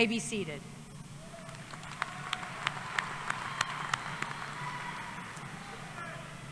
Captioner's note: applause